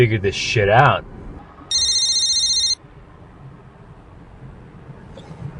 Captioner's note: phone ringing